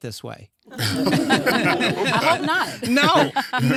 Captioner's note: audience laughing